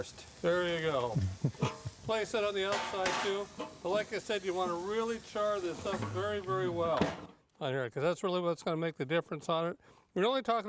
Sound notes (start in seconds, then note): 2.6 clanging; 5.7 clanging